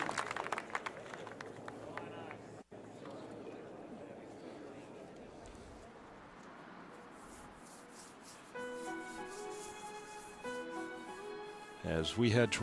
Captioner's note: applause